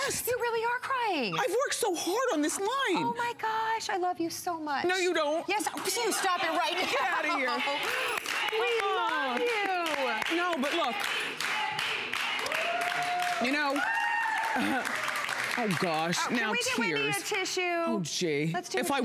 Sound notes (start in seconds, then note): 11.8 applause